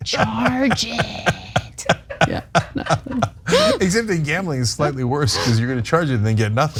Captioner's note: laugh